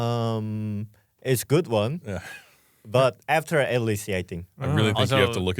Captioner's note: laughs